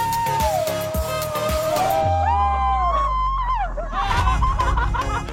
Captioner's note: screaming; group laughing; upbeat music